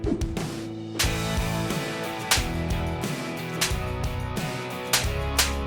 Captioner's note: flesh slaps repeatedly